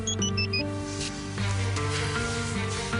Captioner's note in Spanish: Suena el teléfono